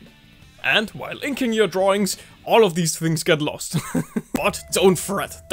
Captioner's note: laughs